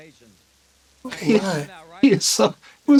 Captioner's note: chuckles